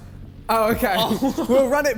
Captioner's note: laughs